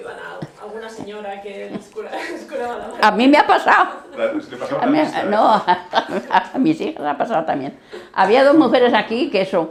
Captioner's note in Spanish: Risses